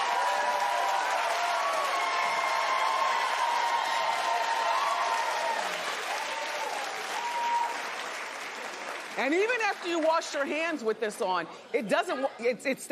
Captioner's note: cheers and applause